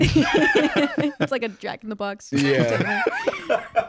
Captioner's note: laughs